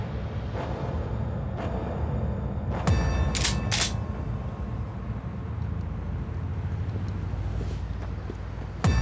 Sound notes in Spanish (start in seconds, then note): 3.3 ruido al enristrar